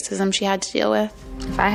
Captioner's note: soundbite of tv show, "the bachelorette"